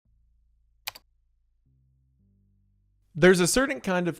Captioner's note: mouse clicks